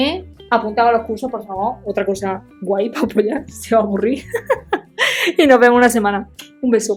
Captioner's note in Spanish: risas